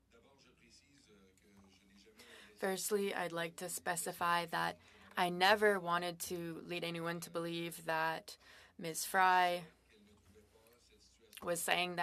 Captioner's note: speaking French